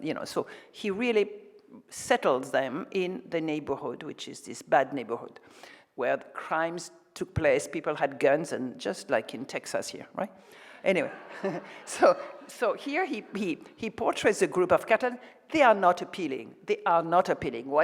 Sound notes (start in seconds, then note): 11.0 audience chuckles